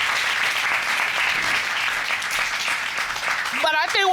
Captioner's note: applause